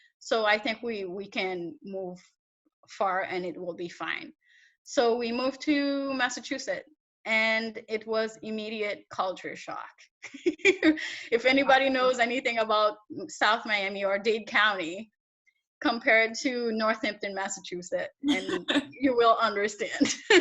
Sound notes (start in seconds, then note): 10.2 laughs; 18.3 interviewer laughs